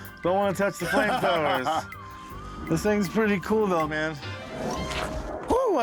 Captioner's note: laughter